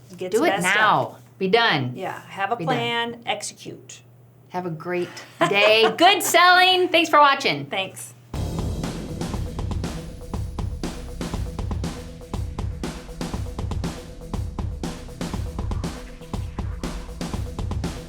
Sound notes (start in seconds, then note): 5.3 laughing; 8.7 upbeat music